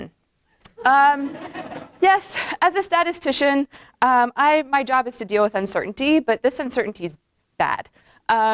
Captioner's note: laughter